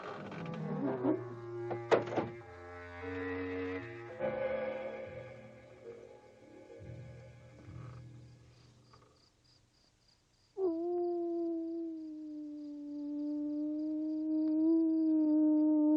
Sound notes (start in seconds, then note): 0.0 door creaking; 10.6 wolf howling